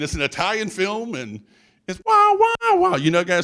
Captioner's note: vocalizes